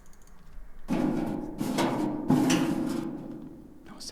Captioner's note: vent makes loud noises; whispers